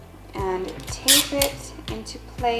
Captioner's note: snapping